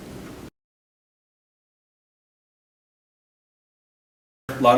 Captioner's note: silence